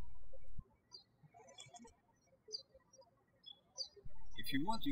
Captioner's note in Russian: птички щебечут